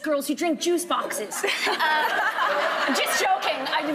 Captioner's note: laughing